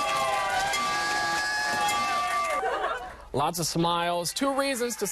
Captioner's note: bell ringing